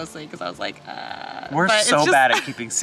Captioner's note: vocalizes